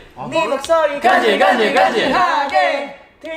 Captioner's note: none